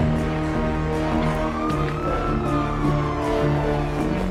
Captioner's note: sirens wailing